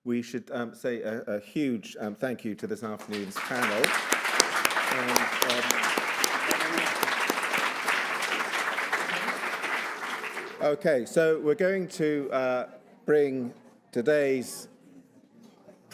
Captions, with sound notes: we should say a huge thank you to this afternoon's panel. (audience applauds) Okay, so we're going to bring today's presentations